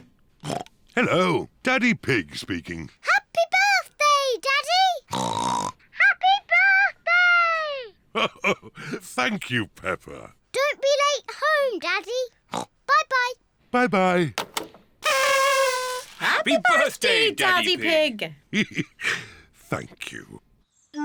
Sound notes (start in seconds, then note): 0.1 oinks; 5.1 oinks; 8.1 chuckles; 12.5 oinks; 15.0 kazoos trumpet; 18.5 chuckles